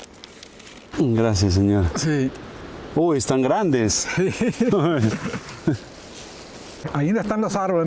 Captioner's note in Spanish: risas